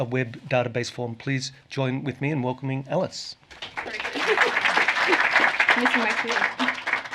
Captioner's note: applause